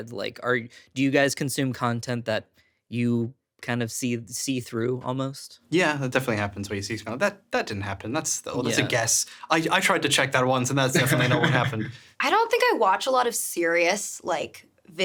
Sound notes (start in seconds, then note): 10.8 laughing